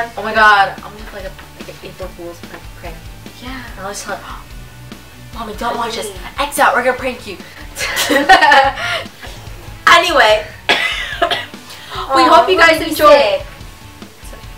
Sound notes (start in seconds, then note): 7.7 laughs; 10.4 coughs